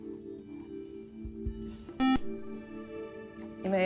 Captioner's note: buzzer